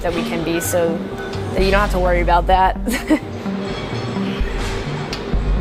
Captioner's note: chuckles